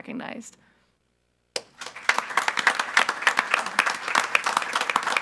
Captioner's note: all applauding